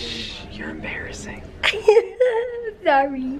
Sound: chuckling

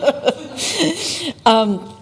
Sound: laughs

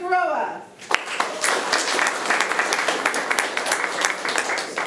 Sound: room applauds

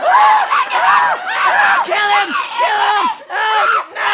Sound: screaming

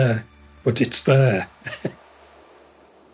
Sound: laughs

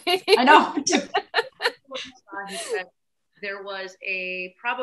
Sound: laughs

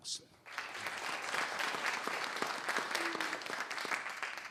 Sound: applause

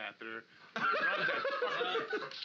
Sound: loudly laughing

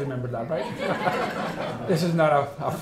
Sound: all laughing

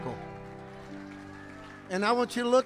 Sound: congregation clapping

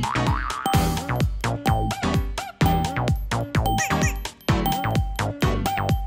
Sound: clock chiming during countdown

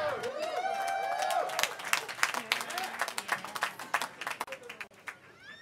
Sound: cheering

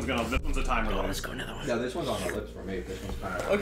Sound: whispering

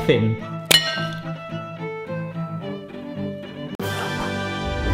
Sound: glass clink; theme music

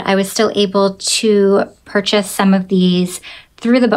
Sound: none

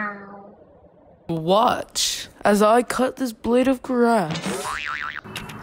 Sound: boing!

